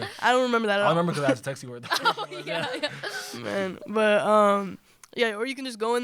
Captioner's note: laughter